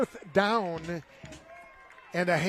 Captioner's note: applause